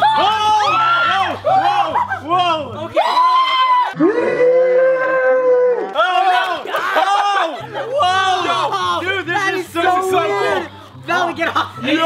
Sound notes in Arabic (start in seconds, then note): 0.1 كل يصيح; 3.0 يصرخ